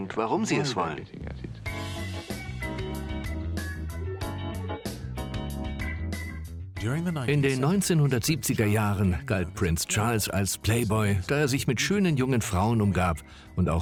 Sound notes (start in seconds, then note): 2.0 upbeat music; 5.9 voiceover